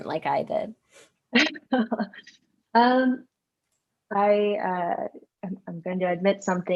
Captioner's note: laughs